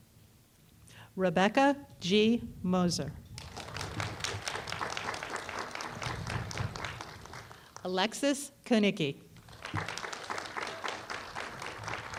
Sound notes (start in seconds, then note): 3.3 applause; 9.4 applause